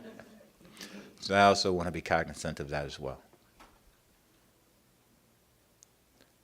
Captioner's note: laughter